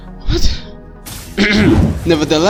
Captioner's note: clears his handsome throat